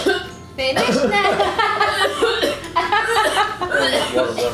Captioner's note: coughing; laughs